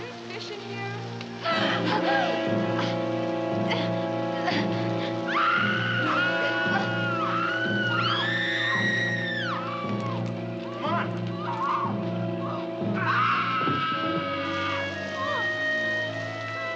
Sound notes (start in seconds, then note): 2.0 dramatic music; 2.0 gasping; 5.2 screaming; 12.9 screaming